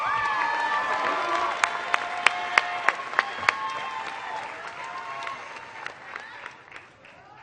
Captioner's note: applause